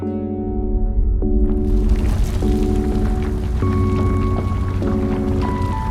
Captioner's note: rumbling